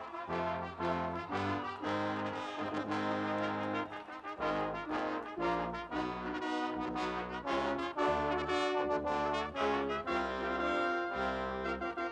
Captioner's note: cheering and applause